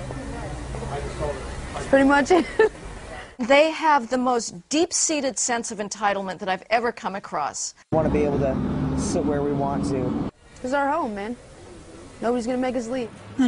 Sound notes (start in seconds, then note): 2.3 laughter